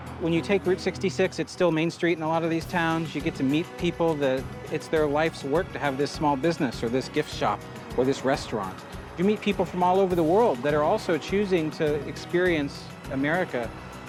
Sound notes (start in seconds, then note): none